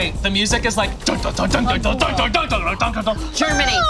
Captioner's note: Abby imitating dramatic music